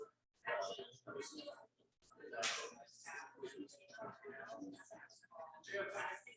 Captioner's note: people chattering indistinctly